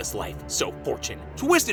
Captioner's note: none